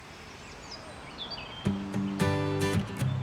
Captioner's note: birds chirping; cheerful music playing